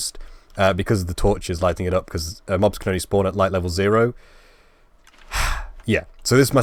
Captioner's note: sigh